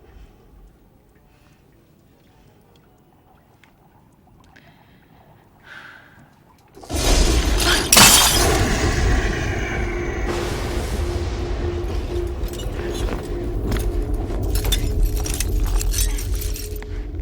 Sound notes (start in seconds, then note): 6.8 glass breaking; 6.8 thunder & lightning